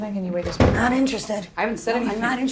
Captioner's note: door clunks